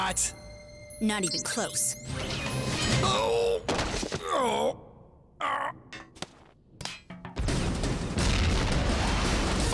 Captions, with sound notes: IS THAT ALL YOU GOT? NOT EVEN CLOSE. (MECHANICAL GRUNT) (PAINED GROANS) (EXPLOSIONS)